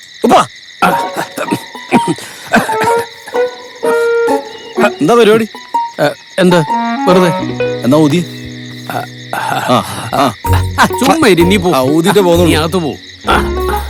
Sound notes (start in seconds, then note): 0.8 coughing